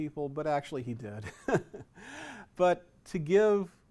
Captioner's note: chuckles